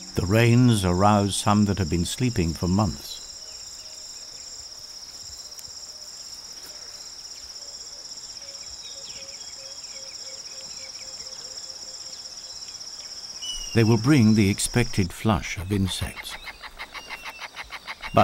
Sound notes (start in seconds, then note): 3.1 birds chirping